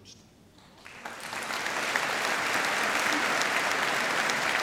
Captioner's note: applause